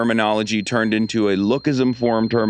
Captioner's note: ascending beeping